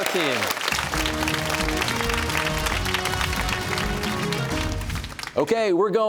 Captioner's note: cheers and applause